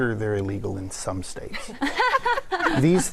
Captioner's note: laughter